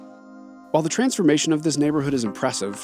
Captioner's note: pat